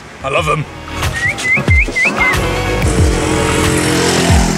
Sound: whistling

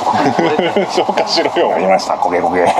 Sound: laughs

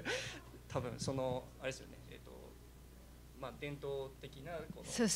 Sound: non-english speech

